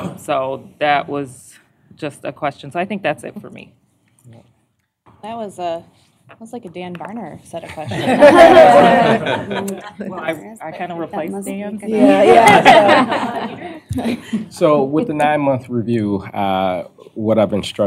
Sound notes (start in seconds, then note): 7.7 laughter